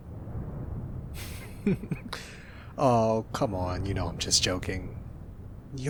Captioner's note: laughs